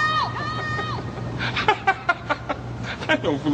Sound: laughing

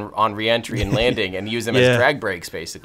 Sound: Peter laughs

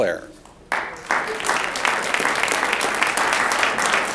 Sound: audience applauds

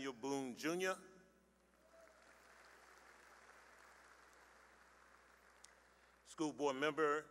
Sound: applause

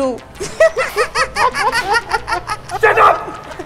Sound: laughing

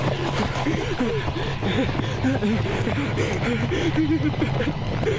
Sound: panting; whimpering

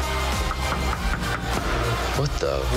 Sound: knocking on the door

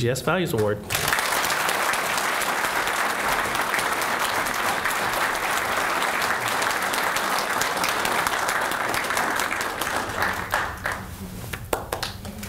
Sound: applause

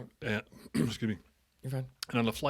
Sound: cough

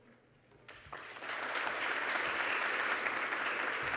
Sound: applause

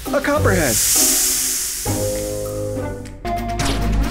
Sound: snake Hiss

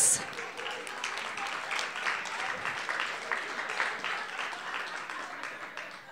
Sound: audience clapping

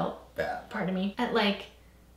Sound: burps

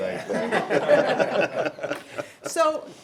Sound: members laughing

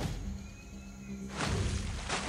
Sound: splashing

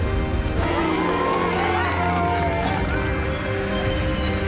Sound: all cheering

